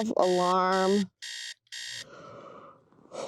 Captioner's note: alarm buzzing; Zion yawning